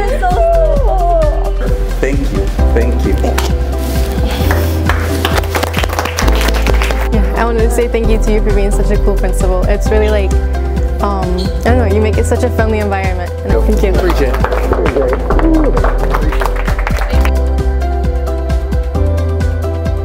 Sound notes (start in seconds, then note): 4.4 students clap; 13.9 students clap; 17.4 upbeat music